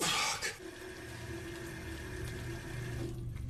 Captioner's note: rubinetto in funzione